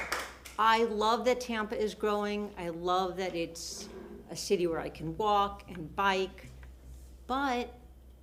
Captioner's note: applause